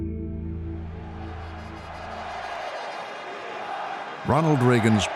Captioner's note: crowd cheering